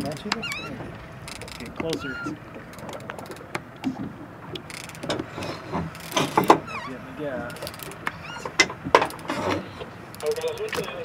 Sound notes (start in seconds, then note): 0.0 squeaking; 1.1 reel cranking; 6.0 squeak; 10.4 radio in background